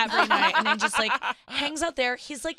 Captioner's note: laughing